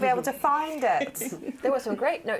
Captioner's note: laughter